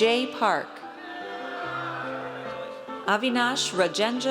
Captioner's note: audience cheers